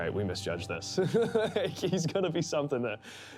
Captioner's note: laughs